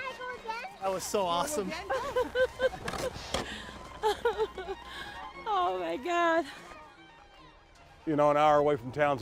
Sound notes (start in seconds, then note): 0.6 lively string music; 1.8 laughs